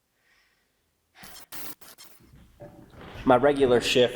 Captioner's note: static crackling